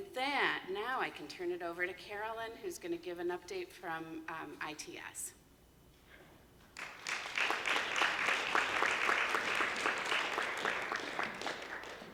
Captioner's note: applause